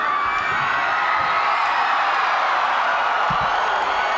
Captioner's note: crowd cheers